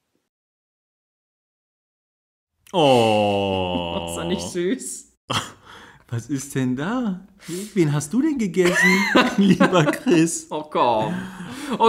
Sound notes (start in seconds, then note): 5.2 laughs; 8.6 laughs